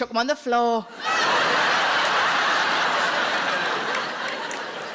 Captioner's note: audience laughing